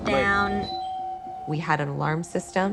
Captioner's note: doorbell rings